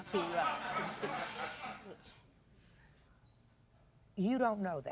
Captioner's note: spectators laugh